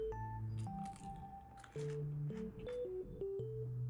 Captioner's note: crunchy